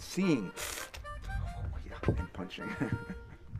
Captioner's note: chuckles